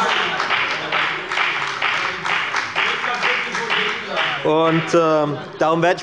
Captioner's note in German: Heiterkeit und Beifall bei der FDP